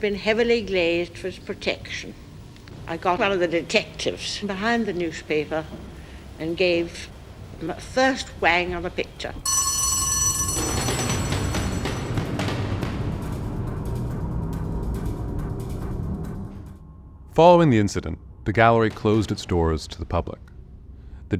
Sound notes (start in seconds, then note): 9.4 alarm bell ringing; 12.4 tense dramatic music